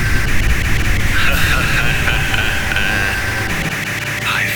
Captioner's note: Pixy laughs